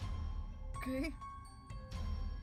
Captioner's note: strained